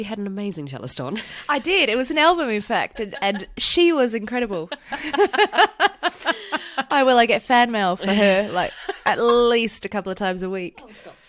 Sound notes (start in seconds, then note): 5.8 laughs